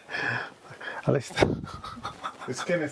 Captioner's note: laughs